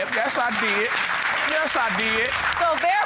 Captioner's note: audience applauding